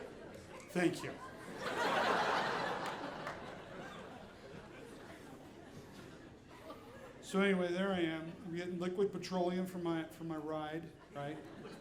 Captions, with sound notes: Thank you. (audience laughing) So anyway, there I am getting liquid petroleum for my ride, right?